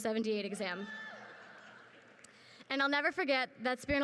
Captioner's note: crowd laughs